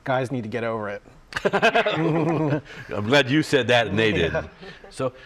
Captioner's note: laughter